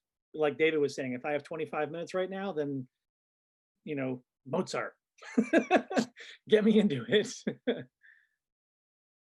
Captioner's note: laughs